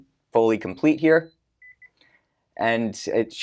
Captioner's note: beeping